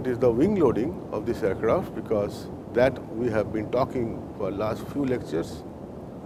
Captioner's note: general aviation twin engine